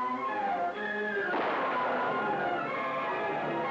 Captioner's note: dramatic music; gun blasting